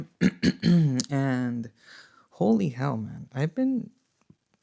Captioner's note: clears throat